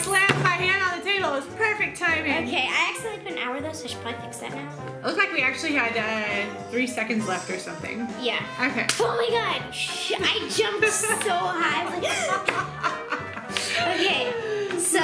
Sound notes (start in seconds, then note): 11.9 laughs; 13.5 gasp